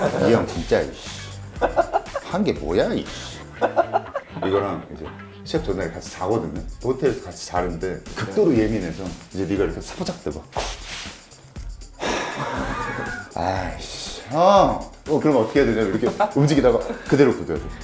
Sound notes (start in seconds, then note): 10.5 scratch